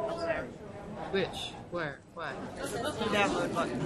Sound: voiceover

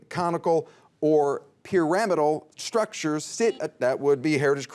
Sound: buzzer beeps

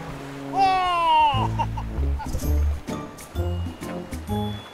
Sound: chuckles; playful music

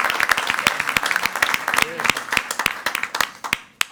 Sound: crowd clapping

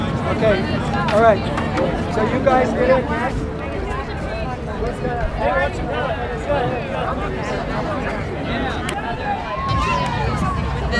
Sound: background ambience and discussions about painting

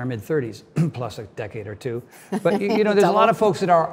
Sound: clears throat; Cynthia laughs

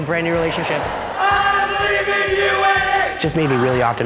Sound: cheering

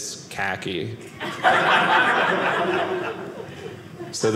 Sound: audience laughing

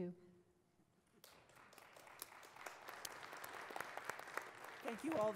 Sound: audience applauds

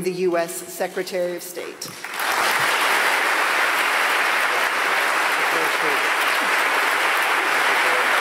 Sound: applause

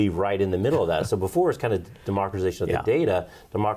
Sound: laughs

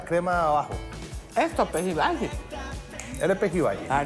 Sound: chasquea los dedos

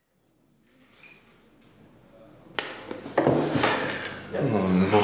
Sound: restaurant noise

